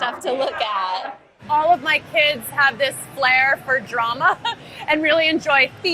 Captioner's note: laughs